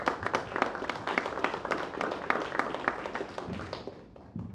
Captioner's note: applause